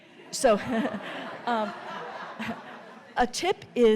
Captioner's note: audience laughing